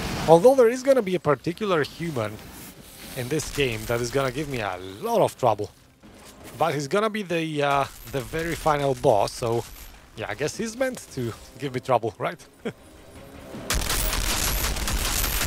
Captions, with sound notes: Although, there is going to be a particular human in this game, that is going to give me a lot of trouble.. But he's going to be the very final boss, so.. Yeah, I guess he's meant to give me trouble, right? [Laughs]